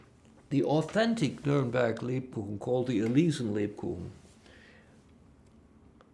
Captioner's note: german